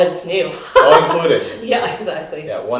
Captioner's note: laughter